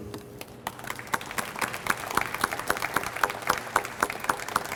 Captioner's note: audience applauds